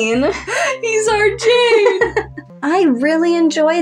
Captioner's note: snicker; laugh